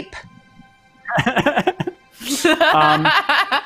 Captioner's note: laughing